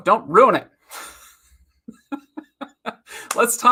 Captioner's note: laughs